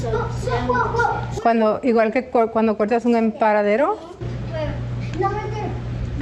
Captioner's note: in Spanish